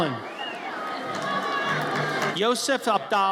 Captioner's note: audience cheers